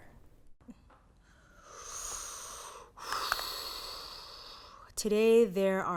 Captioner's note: inhales heavily